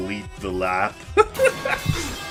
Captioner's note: laughs